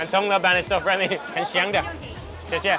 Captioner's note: speaks in a foreign language; woman speaks in a foreign language